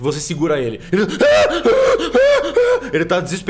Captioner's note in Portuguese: gritos de desespero